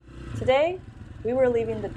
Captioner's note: bike engine running